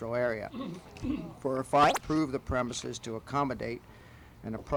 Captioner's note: camera noise